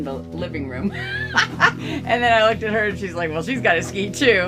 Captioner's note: laughing